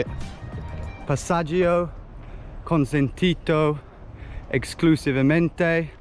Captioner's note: speaking in a foreign language